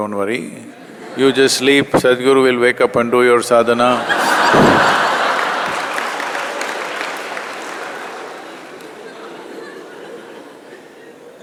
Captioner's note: laughter